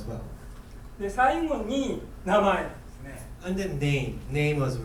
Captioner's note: speaking in foreign language